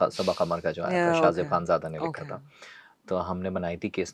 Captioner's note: nasal voice